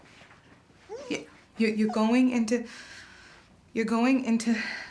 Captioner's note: ragged breathing